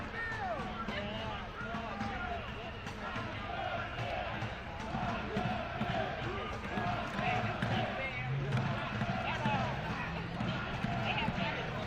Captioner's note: chanting